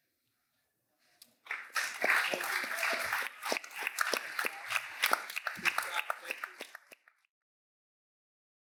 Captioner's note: applause